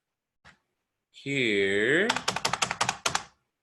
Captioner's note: keyboard tapping